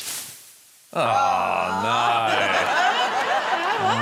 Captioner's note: groans; laughter